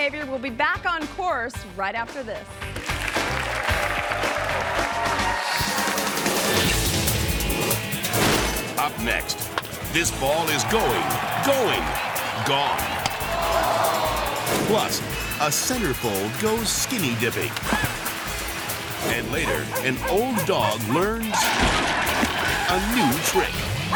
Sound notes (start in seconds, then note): 2.8 audience cheers and applauds; 6.8 upbeat music